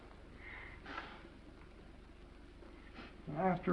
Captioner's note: Esther's nose blows